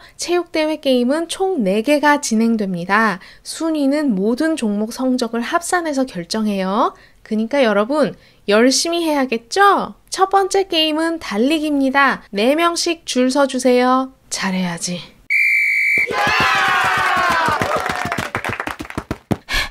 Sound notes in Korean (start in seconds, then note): 15.3 호루라기 소리; 16.0 응원 소리